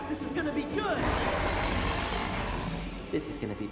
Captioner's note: dragon roars